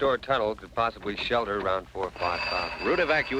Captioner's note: phone ringing